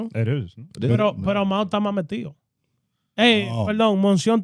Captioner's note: speaking In Foreign Language